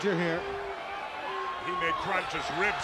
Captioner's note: crowd chatter